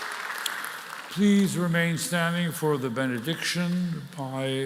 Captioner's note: cheering and applause